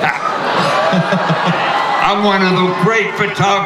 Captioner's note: everyone laughs